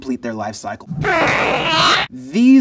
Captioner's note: alien whines